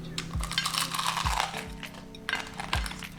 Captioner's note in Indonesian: Kriuk... Kriuk